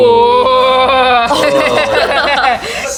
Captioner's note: laughter